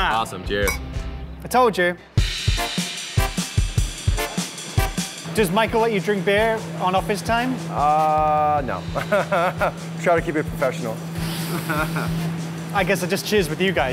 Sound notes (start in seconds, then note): 9.0 laughs